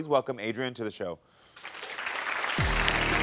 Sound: audience applauds; intense music

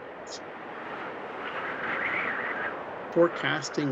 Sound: wind gusts

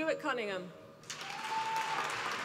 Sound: applause

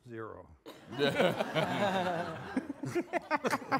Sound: all laughing

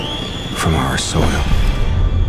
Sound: screaming

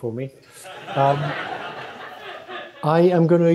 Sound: laughter

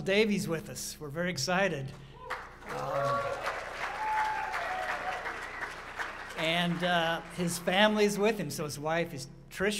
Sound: applause

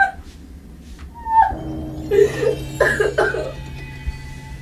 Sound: Lisa crying

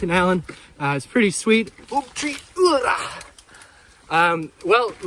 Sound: breathes out

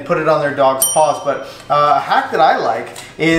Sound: bell counter rings

